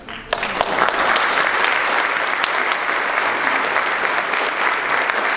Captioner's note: audience applauding